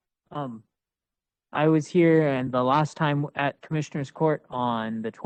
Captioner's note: speaking Spanish